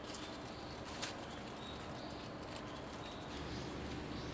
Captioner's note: birds are chirping